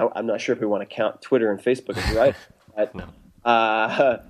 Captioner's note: laughs